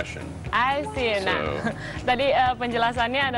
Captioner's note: non-english speech